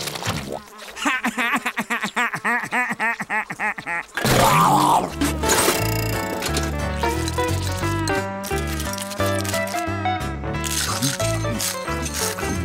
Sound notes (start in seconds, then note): 0.9 laughing